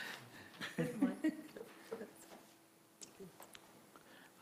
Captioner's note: laughing